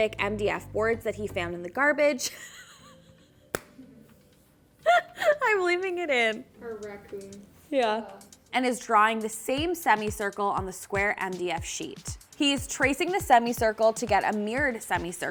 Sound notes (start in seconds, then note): 2.3 laughing